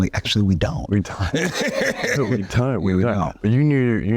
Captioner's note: men chuckling